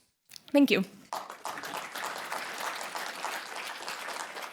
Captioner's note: applause